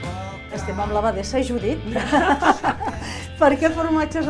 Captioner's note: laughter